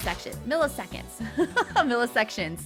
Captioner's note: laughing